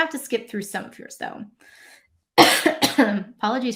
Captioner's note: coughs